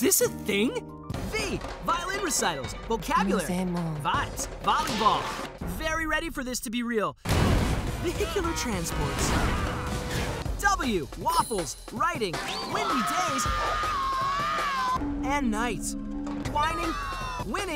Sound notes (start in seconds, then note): 8.6 crashing; 12.6 screaming